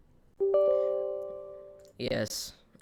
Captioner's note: beeps